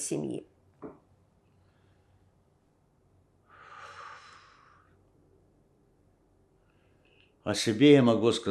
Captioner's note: pause 7 seconds